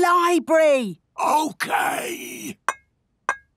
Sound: whispering

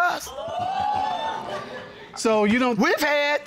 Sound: audience gasps

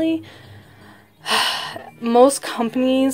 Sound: sigh

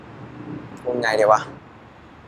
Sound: in Thai

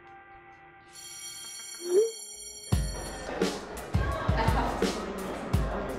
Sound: school bell

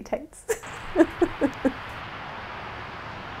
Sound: chuckling

